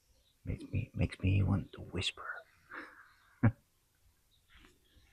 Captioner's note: whispers